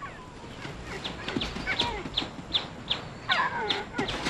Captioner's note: braying